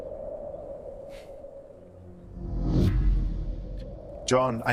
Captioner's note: wind howling